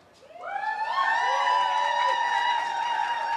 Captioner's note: cheers and applause